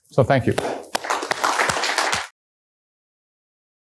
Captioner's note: applause